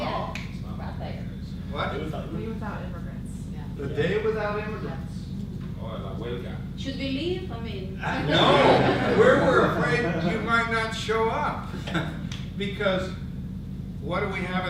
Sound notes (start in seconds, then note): 8.0 audience laughs